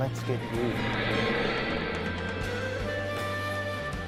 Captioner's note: graphics whooshing; gentle bright music